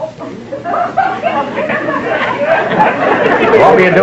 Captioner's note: audience laughter